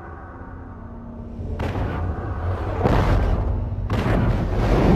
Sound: dramatic sounds; digitized landslide sounds

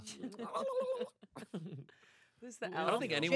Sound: grumbles

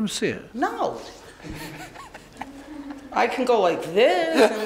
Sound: laughing

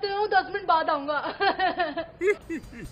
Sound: laughing

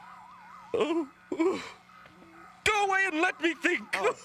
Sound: whines

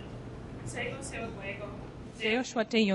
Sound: non-english speech

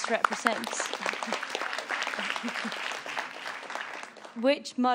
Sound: audience applauds

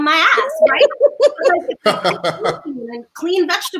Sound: laugh

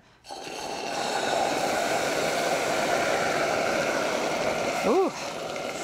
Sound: mixture sizzling

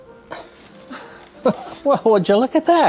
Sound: laughs

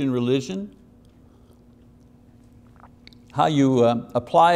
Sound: water gurgling

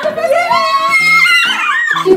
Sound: both yell

